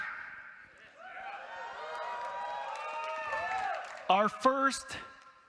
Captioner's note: audience cheering